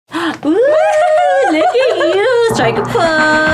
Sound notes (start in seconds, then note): 0.1 gasps; 0.4 laughs